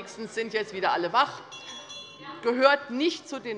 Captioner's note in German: Glockenzeichen der Präsidentin